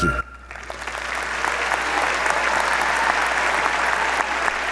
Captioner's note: audience applauding